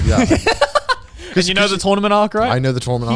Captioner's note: laughs